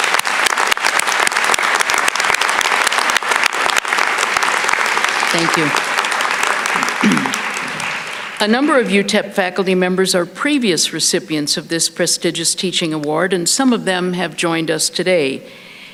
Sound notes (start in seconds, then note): 0.0 applause